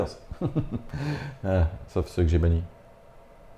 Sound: sarcastic laughter

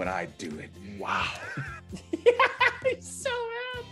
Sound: laugh

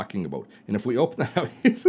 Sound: laughs

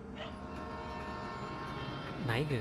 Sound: train passing in background

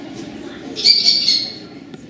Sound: kestrel Call

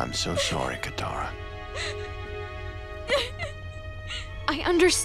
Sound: sobbing

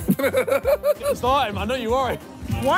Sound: laughing

